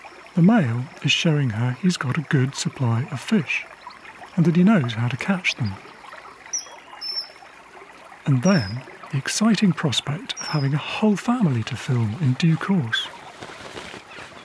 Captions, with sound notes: The male is showing her he's got a good supply of fish, and that he knows how to catch them. [CHIRPING] And then, the exciting prospect of having a whole family to film in due course.